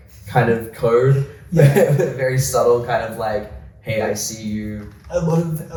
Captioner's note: laughs